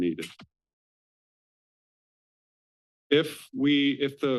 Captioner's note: pause